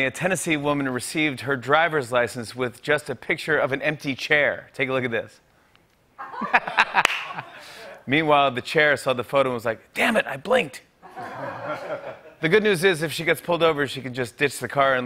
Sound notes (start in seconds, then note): 6.2 laughter; 11.0 laughter